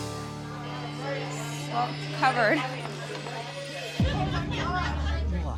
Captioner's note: laughs